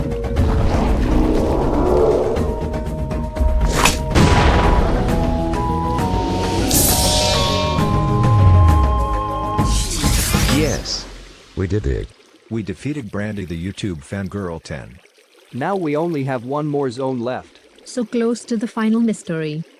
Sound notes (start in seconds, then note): 3.6 Fang snaps; 9.5 portal opens